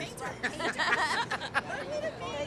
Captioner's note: all laughing